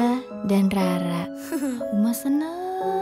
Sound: laughing

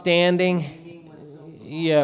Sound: faintly speaking

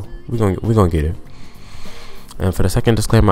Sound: nasally inhale

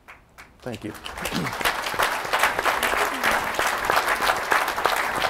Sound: audience applauding

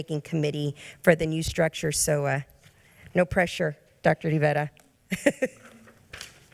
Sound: laughs

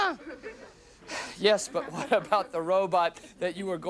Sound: sighs

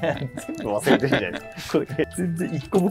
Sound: laughing

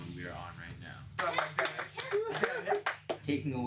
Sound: cheers and applause

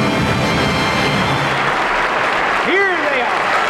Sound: crown applauds

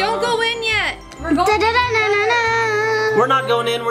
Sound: vocalizing

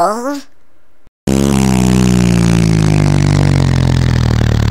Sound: motor sound

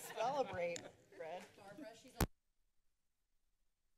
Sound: background conversations; silence

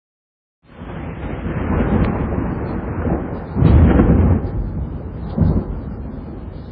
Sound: thunder

